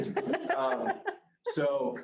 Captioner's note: group laughing